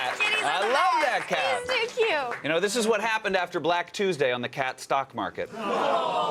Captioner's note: cheers and applause